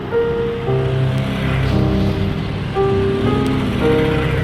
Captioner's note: engine roaring